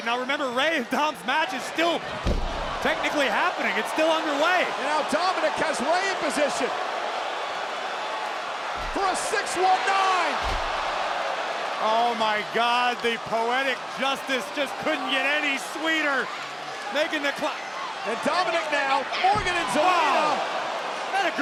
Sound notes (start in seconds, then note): 9.9 spectators cheering